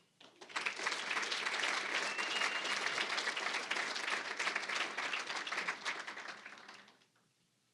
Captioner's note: applause